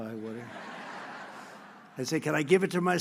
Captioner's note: laughter